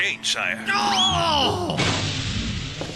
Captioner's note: groans; thud